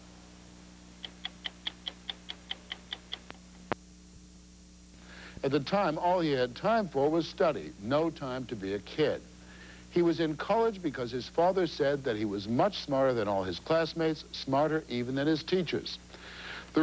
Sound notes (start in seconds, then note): 0.9 clock ticking